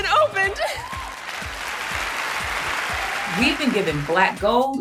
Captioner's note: audience applauding